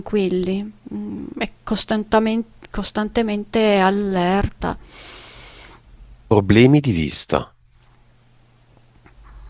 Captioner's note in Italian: sbuffare